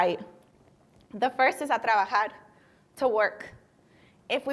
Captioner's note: speaking spanish